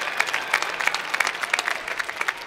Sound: applause

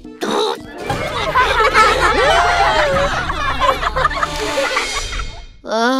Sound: laughing

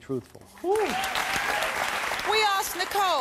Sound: audience applause

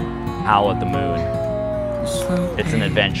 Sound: howls

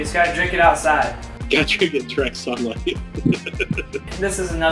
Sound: laughs

